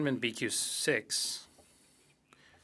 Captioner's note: speaking French